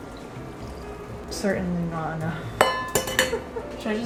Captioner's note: laughs